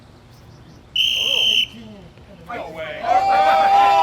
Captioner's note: crowd chatters; whistle blows; crowd cheers and yells